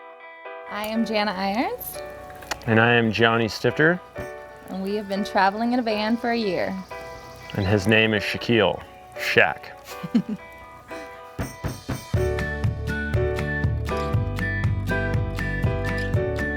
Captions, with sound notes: - Hi, I'm Janna Irons. - And I am Johnny Stifter. - And we have been travelling in a van for a year. - And his name is Shaquille. Shaq. (they chuckle) (uplifting music)